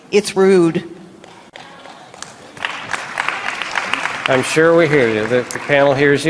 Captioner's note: applause